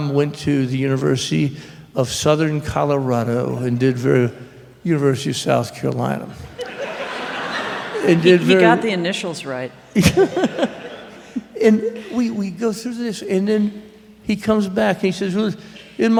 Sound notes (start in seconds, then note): 6.5 laughter; 9.8 laughing